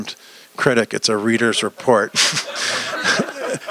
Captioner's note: laughter